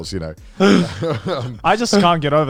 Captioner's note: laughing